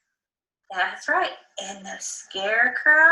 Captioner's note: disembodied Female Voice